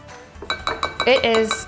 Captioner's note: bowl tapping